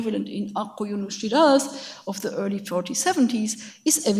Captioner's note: speaks in a foreign language